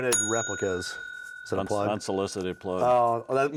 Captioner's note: bell dings